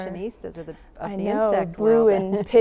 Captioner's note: laughs